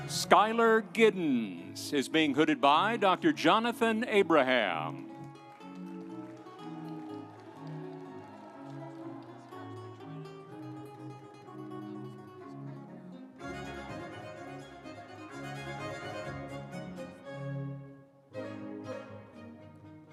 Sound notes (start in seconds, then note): 6.6 audience applauding; 6.6 instrumental music